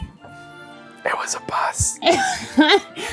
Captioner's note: whispers: It was a bus